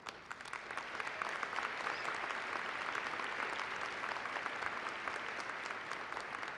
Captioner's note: applause